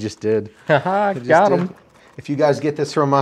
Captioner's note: chuckles